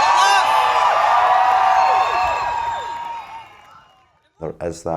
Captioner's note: crowd cheering and applause